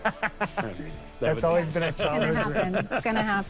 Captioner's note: laughing